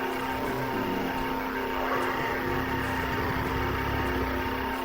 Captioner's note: zombies growling